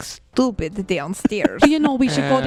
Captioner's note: laughs; makes a sound of assent